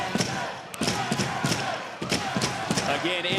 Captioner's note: chants